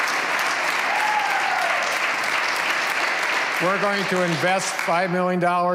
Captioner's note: cheers and applause